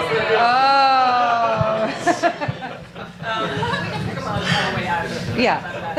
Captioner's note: audience laughter